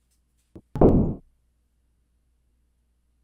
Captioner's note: window thuds